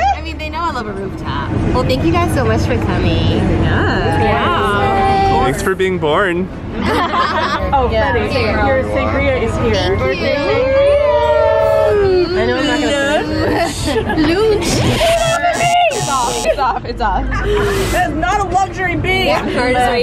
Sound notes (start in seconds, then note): 14.7 buzzer